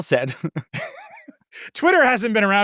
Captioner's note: people laughing